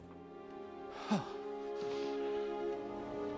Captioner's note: sigh